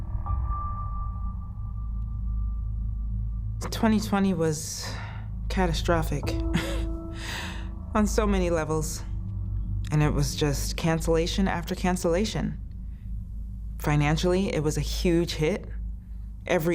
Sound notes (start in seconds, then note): 6.4 chuckles